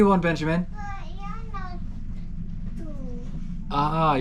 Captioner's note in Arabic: يغمغم